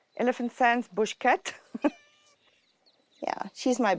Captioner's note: laughs